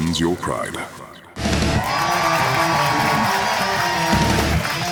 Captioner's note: audience Cheering